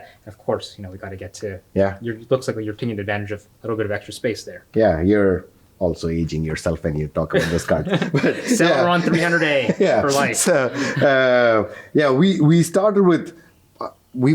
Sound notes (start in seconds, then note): 7.3 laughs